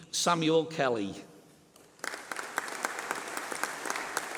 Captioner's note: applause